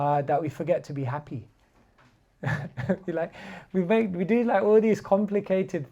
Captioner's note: chuckles